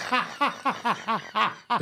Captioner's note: laughs